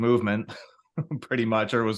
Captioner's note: laughs